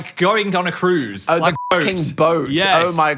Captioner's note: beep